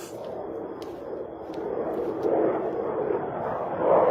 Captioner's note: F-16s flying